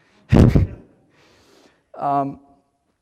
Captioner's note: laughs